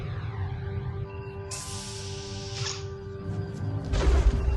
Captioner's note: doors open